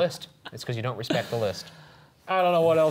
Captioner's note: laughing